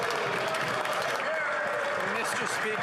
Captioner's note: some Applause